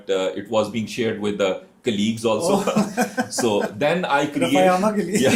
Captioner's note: हंसी